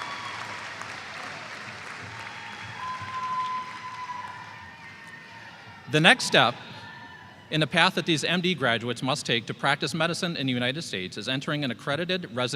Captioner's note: applause